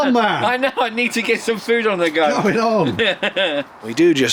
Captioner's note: laughter